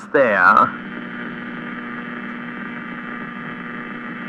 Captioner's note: radio static fx